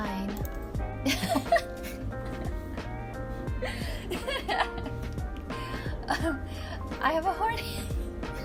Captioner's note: dying of laughter